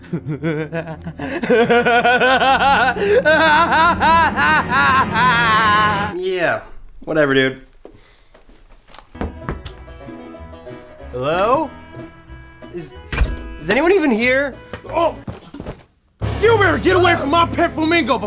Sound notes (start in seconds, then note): 0.0 evil laughter; 9.2 knocks door